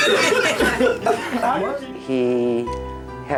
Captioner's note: laughing